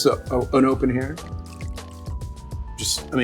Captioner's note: wine pouring